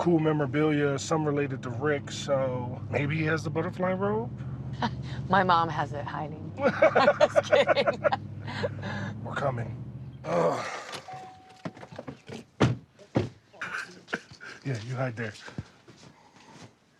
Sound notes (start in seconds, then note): 6.6 laughs